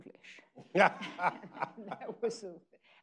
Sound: people laughing

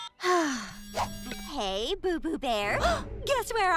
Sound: Rita gasping; sighing

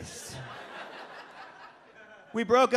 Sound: audience laughs

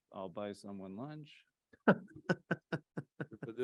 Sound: laughter

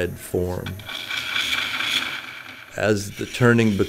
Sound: wood scraping

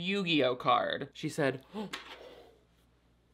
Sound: gasps

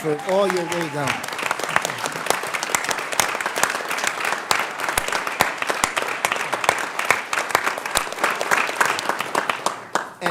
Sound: applause

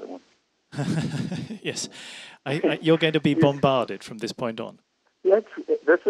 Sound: laughs

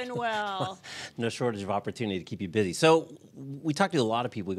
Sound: laughs

